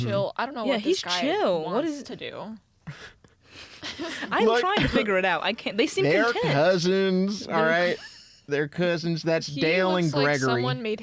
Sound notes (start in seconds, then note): 3.4 laughter; 10.0 laughing